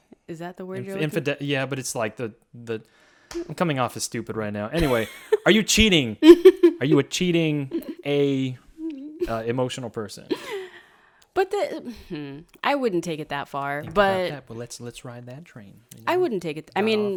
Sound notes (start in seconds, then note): 6.2 laughs